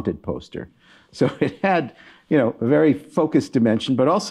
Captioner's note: chuckling